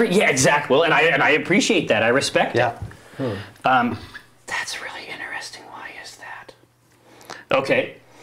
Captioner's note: whispering